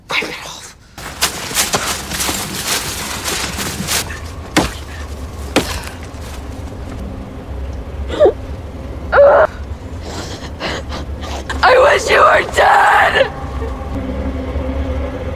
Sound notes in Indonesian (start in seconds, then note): 9.8 tertawa